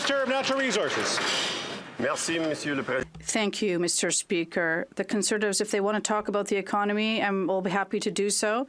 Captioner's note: some Applause